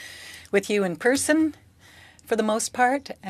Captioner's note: speaking French